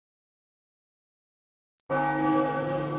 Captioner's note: bell rings